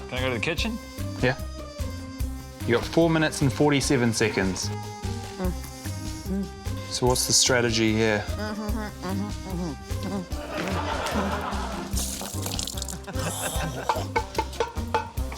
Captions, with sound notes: - Can I go to the kitchen? - Yeah. You've got four minutes and 47 seconds. - Mm. Mm. - So what's the strategy here? - (GRUNTS) (LAUGHTER) (SCOFFS) (POT CLANGS)